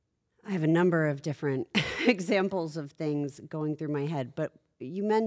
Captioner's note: laugh